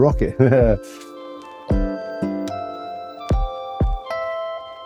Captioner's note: chuckles